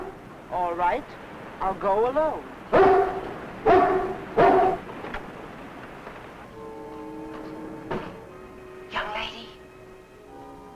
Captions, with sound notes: All right, I'll go alone. (dog barking) (light dramatic music) Young lady.